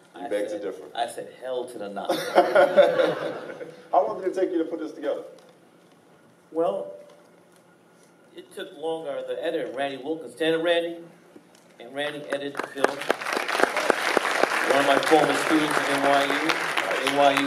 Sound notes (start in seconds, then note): 2.1 laughing; 12.2 applauding